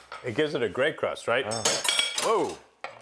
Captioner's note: item clanging loudly